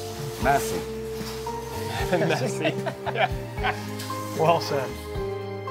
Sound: laughing

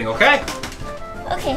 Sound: wood creaking

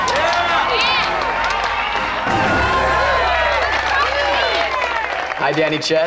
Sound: cheering, applause

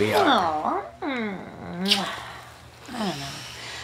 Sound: lips smack

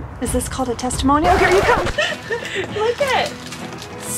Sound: record scratches

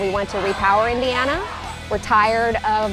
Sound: group shouting

